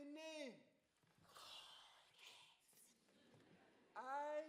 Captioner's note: students all whisper